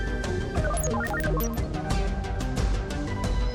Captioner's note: computer beeps